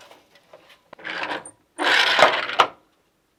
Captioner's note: noise of shuttle moving